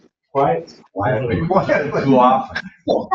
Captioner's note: laughing